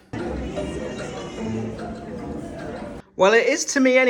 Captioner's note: uptempo cheery music; baby crying